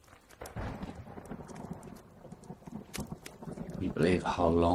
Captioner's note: thunder rumbles